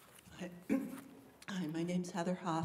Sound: clears throat

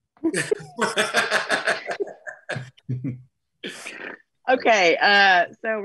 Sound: laugh

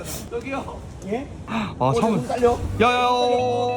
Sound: window opens

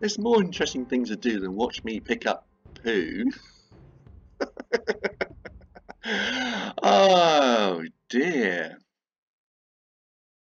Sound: laughs

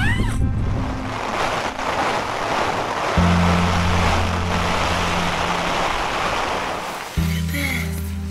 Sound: rain lashing

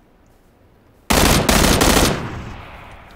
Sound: gun firing rapidly

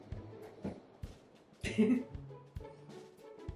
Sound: mom giggles

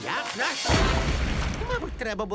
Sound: explosion blasts

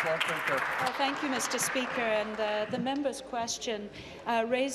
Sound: applause

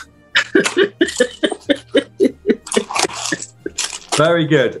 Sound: giggling

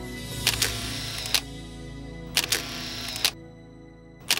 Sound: projector whirring

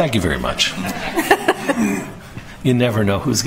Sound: laughter

